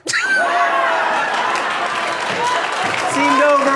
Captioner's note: crowd murmuring